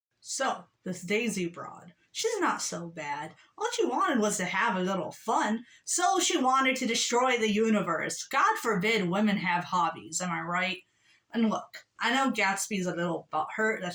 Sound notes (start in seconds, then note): none